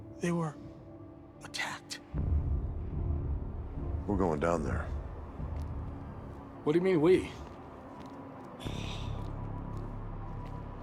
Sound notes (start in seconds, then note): 8.6 sighs